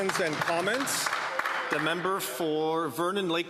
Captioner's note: some Applause